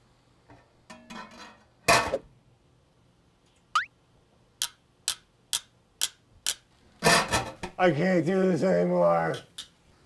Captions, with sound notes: [tongs clacking] I can't do this anymore.